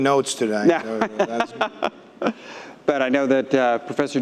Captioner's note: laughing